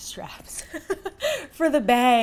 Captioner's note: laughs